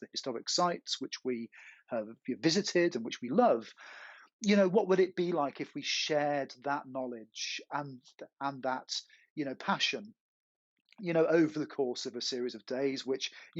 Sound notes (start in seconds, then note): none